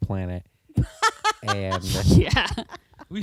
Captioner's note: laughter